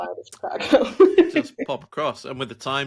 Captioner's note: laughing